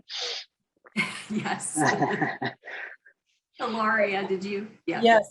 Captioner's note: laughs